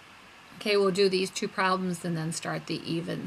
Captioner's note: voiceover